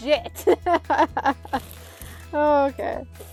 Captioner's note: laughs